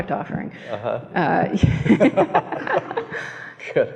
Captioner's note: laughs